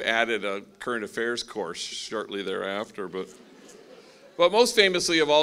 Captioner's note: laughing